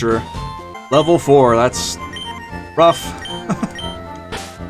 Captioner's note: laughs